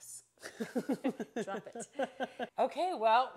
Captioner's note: laughing